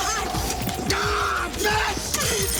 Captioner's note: Graham yells